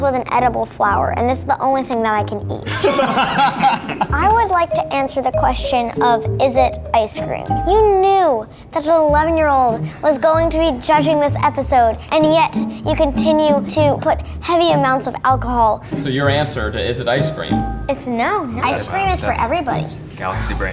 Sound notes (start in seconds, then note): 2.6 guys laughing